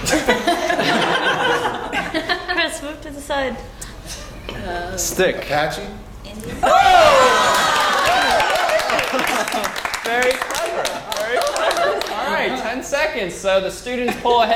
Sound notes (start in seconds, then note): 0.1 laugh; 9.0 applause